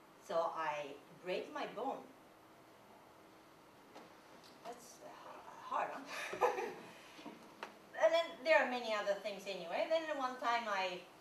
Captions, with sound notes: So I break my bone. That's hard! [laughter] And then there are many other things anyway then the one time I